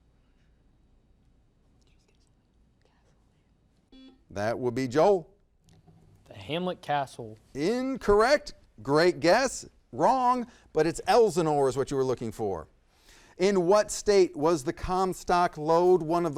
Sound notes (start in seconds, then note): 1.3 whispers; 3.9 buzzer beeps; 4.1 whispers